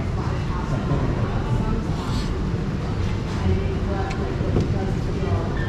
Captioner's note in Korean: 뇸뇸뇸